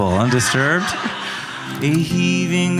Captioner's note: audience laughing